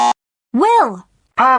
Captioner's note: buzzer